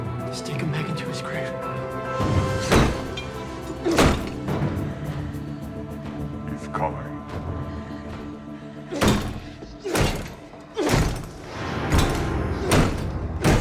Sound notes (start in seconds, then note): 1.8 intense dramatic music; 2.7 door lock clanging; 5.3 intense dramatic music; 9.1 Paul groans; 9.8 door lock clanging; 12.1 dark eerie music